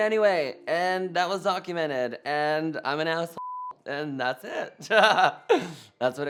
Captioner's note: beep